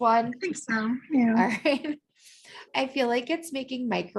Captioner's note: laughter